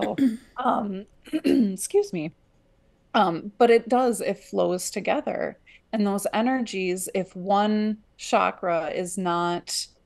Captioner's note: clears throat